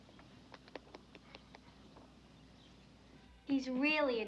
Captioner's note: soft patting